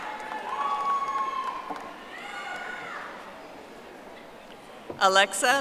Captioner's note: audience applauding